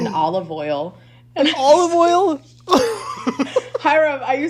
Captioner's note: laughs